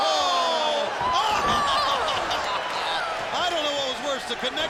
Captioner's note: laughs